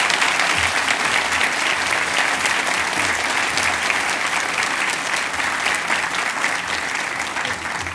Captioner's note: cheers and applause